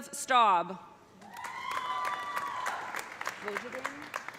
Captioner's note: audience cheering; audience applauding